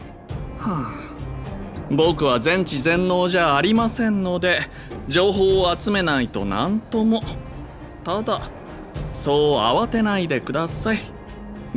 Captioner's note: sigh